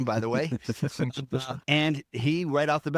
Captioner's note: laughing